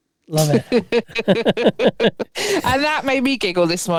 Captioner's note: both laughing